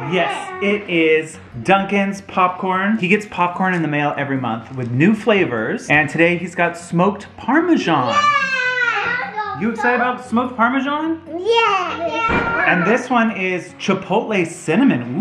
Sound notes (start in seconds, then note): 8.1 screams with excitement